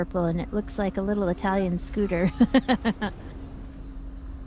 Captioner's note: laughs; ominous music